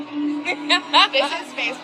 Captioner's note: laughs